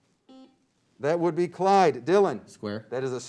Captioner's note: beep